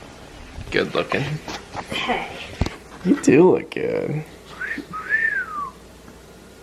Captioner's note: whistles